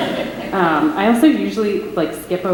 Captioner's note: laughter